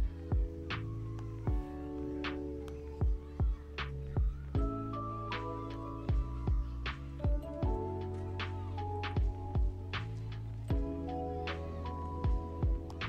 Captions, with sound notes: The only method I haven’t tried yet is factory resetting it Hope it goes well and I don’t end up losing everything… *nervous* Here we go